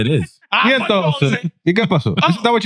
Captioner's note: speaking In Foreign Language